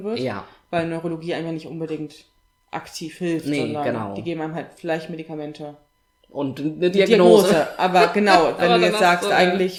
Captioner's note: laughs